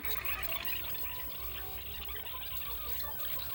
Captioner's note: tape rewinding